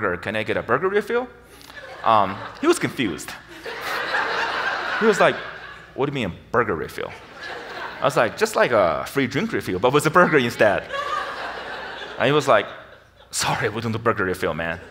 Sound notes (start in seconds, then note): 4.0 audience laughs; 14.6 audience laughs